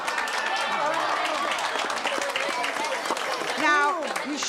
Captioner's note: audience both applauds and jeers